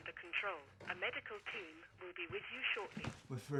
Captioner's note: intercom